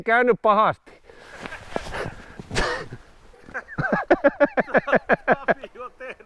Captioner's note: both guys laughing